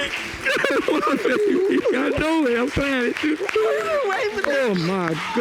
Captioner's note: crying; both crying